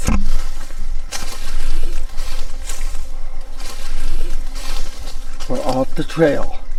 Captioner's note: leaves crunching continues